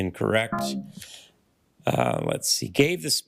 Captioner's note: failure chime